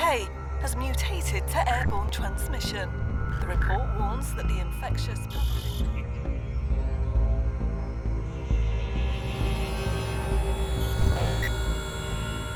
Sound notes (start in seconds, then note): 5.1 intense music; 5.1 static buzzing